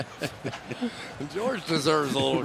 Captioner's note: laughter